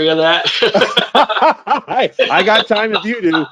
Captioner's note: both laugh